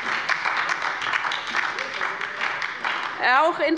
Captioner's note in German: Beifall bei der LINKEN und der SPD